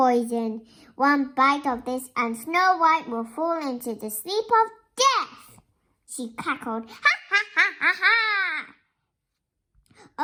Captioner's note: ha ha ha